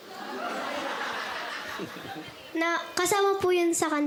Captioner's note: laughing